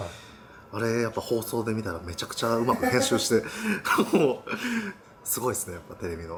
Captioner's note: laughs